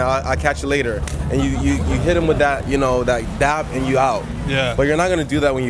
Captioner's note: 큰 악수